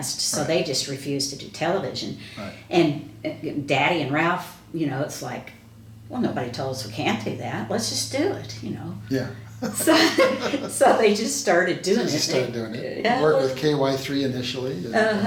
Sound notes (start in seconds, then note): 9.6 both laughing